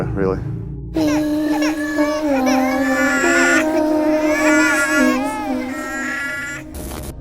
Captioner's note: eerie singing; baby crying